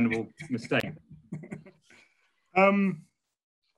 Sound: laughing

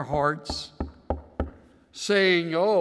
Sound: knocking sound

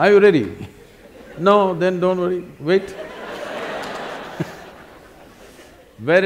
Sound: laughter

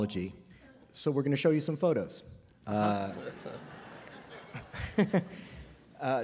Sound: laughter

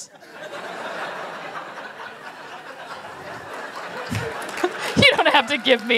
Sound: laughter; applause

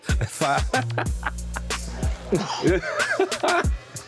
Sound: laughs

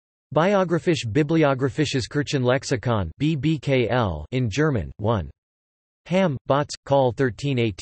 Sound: in German

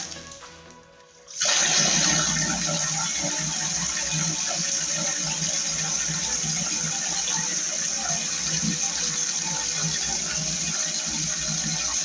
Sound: water splashing

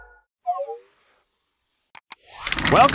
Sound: clicking; curtain rising

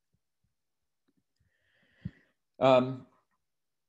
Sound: takes deep breadth

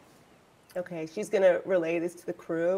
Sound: birds chirping

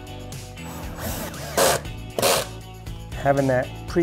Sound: drilling sound

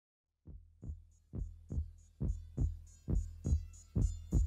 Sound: heartbeat

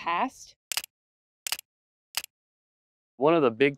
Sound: camera shutter clicking

